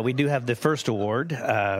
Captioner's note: laughter